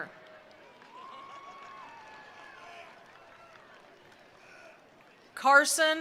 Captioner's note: attendees cheering; attendees applauding